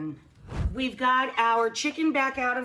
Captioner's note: scene whooshing